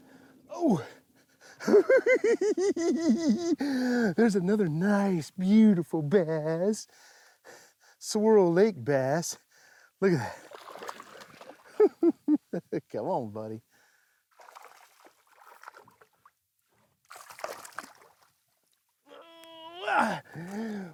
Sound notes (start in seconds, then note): 1.6 giggles; 11.7 giggles